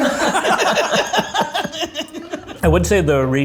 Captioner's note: group laughing